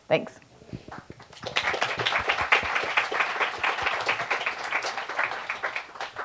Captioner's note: applause